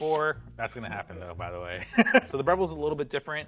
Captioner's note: laughs